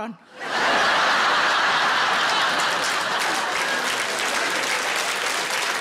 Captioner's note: audience laughing and applauding